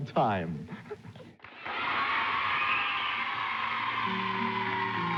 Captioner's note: audience cheering; tranquil music